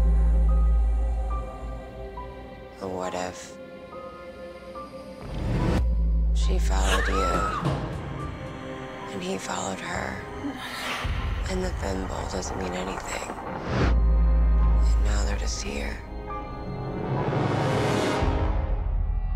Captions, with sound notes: Or what if she followed you-- [scream] --and he followed her and the thimble doesn't mean anything, and now they're just here? [scary music]